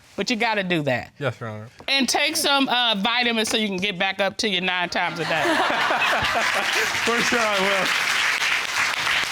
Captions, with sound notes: -but you got to do that. -Yes, Your Honor. And take some, uh, vitamins so can get back up -to your nine times a day. -[all laughing] For sure, I will.